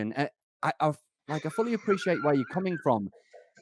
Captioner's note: laughs